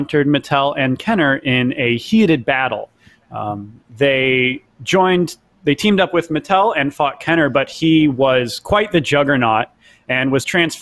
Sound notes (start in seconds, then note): none